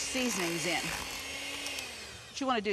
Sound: mixer mixing

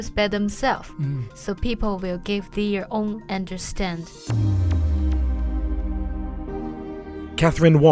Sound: voiceover

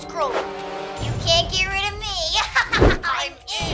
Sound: laughing

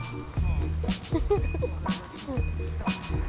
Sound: laughing

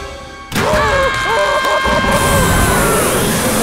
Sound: screaming

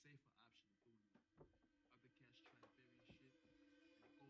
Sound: floor creaking

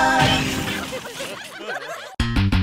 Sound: laughter

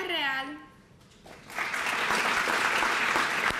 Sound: applause

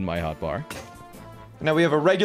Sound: carrot-on-a-stick breaking

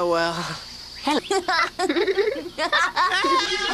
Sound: Tk giggling; Joe, yelling

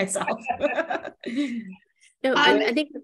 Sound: laughing

